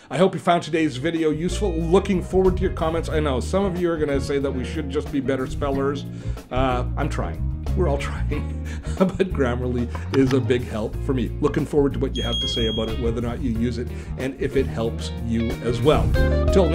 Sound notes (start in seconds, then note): 3.3 funky jazz music; 7.6 laughs; 12.2 bell ringing